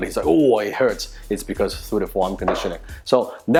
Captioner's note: knocks wood